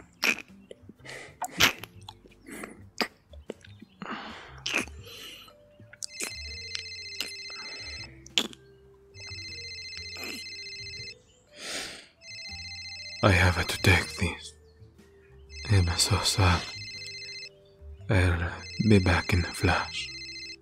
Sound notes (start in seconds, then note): 6.0 A phone ring interrupts you; 11.4 groans